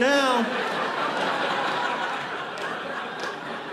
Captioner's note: audience laughing